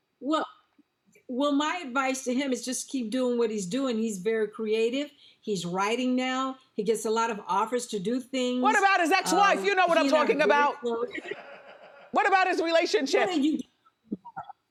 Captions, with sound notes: - Well my advice to him is just keep doing what he's doing. He's very creative, he's writing now, he gets a lot of offers to do things. - What about his ex wife? You know what I'm talking about! - He and I are very close. (audience laughs) - What about his relationships?